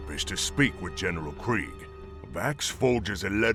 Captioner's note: none